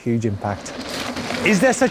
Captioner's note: dirt and grass crunching